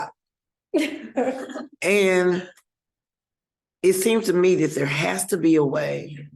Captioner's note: laughter